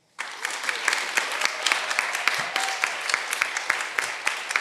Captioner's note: applause